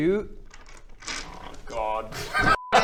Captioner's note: laughing; ominous dice rustling